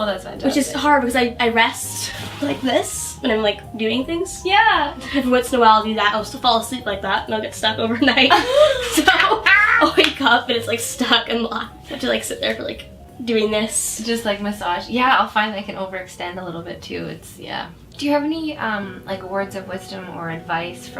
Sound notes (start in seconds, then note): 8.3 laughs